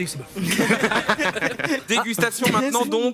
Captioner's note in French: rires